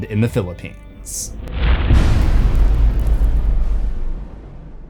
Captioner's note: impact